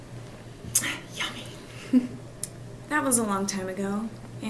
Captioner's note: chuckles